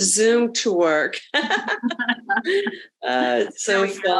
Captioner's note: presenter laughing